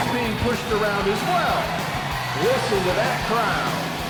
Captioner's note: crowd cheering